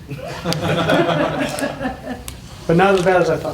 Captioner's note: laughter